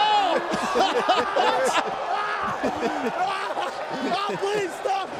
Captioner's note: laughter